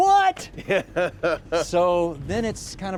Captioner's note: laughing